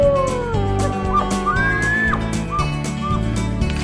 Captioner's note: wolf howling; elk bugling